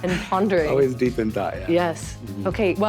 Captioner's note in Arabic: يضحك